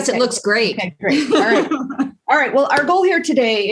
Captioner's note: laugh